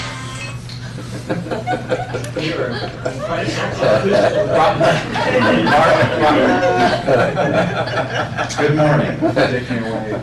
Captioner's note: laughter